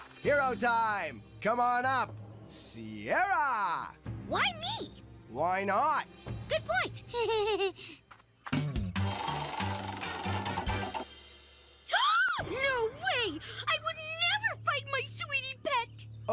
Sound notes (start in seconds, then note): 7.1 giggling; 11.8 gasping